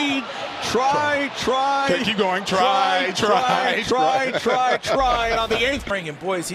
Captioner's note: dissolves to laughing